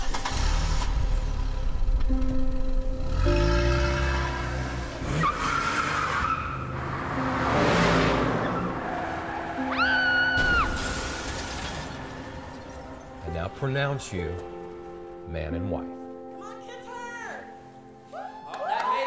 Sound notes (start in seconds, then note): 0.0 engine starting; 5.2 screeching tires; 9.6 woman screaming; 10.3 shattering glass